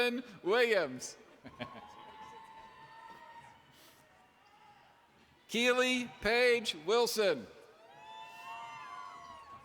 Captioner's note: laughter